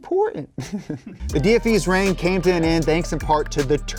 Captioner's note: laughs